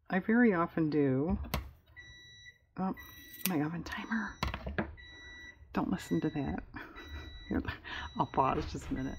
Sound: beeping sound

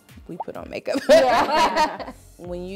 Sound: all laughing

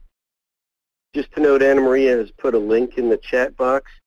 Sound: voiceover

